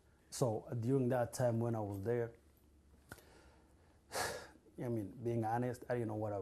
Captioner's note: sighs